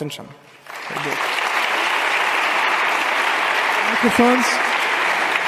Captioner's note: audience applauding